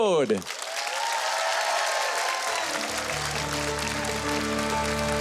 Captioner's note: audience applauding; light music